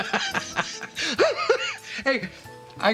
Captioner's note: Tommy laughs